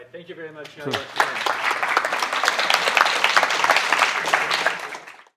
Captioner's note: applause